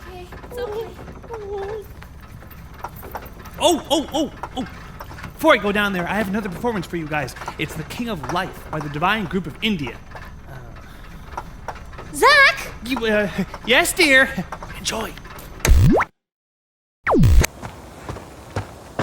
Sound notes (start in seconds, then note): 15.7 TV whooshing